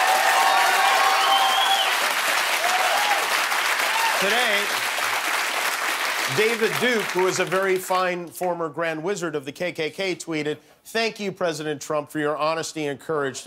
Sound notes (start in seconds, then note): 4.3 cheers and applause